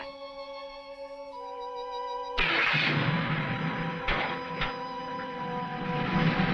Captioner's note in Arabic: هدير المحرك